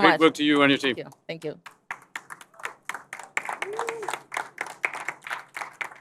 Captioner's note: applause